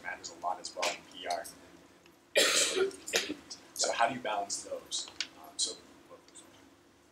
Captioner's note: cough